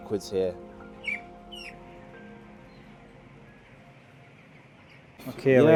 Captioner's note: chickens chirping